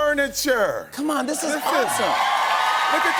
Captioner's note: cheers and applause